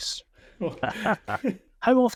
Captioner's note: both laughing